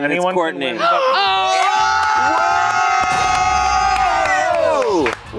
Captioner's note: everyone cheering